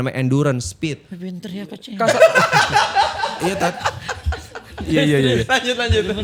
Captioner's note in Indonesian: tertawa